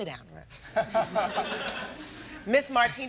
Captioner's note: audience laughs